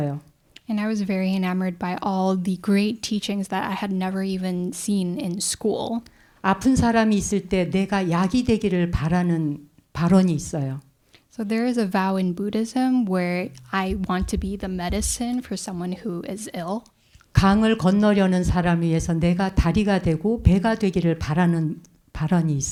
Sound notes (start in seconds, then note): 7.0 speaking in Korean; 17.9 speaking in Korean